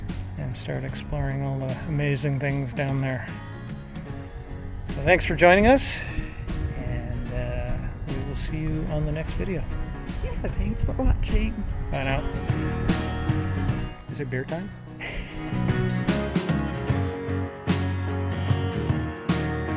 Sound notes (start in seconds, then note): 15.0 laughs